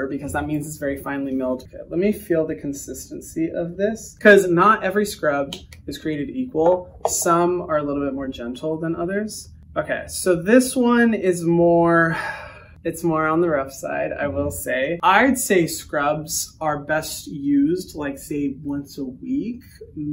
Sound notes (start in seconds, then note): none